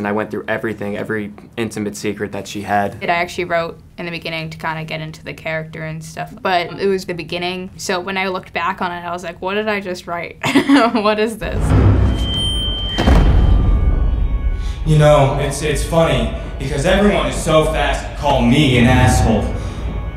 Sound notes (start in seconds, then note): 10.8 laughs; 11.4 ominous thud; 11.5 microphone squeals